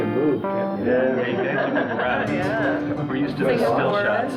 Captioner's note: people laughing